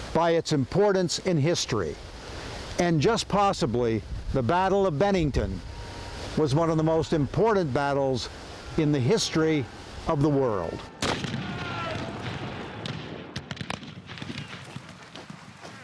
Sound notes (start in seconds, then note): 11.0 guns firing; 11.9 soldiers shouting